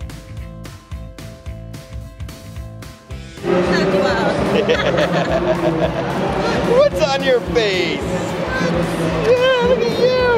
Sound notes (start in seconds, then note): 0.2 upbeat music; 4.3 laughs